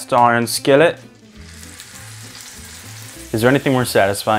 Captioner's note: chop sizzling